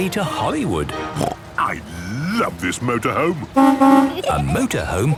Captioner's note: honking